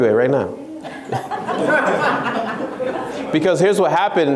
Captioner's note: laughs